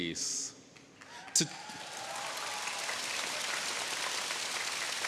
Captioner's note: audience cheering